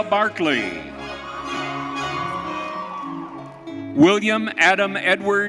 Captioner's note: audience cheering